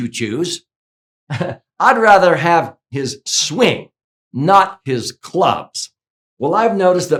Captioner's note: chuckles